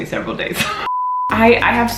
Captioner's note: beep